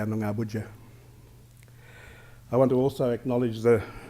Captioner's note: foreign language; foreign language